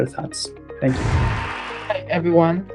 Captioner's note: cheering